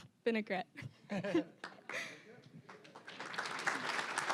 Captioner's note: both laughing; applause